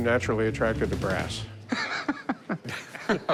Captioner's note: laughter